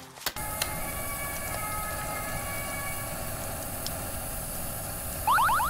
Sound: firefighter sirens

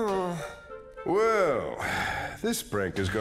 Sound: sighs

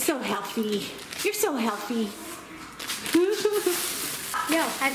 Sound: laughs

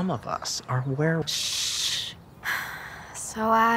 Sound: both shushing

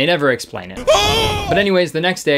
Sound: terrified yelling

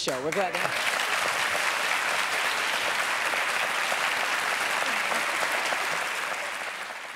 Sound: applause

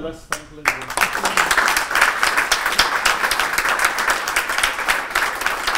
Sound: applause

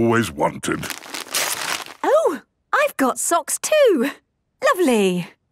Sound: tearing

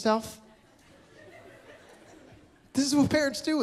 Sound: laughter

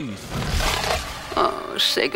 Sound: vamp face noise

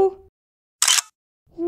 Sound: click!

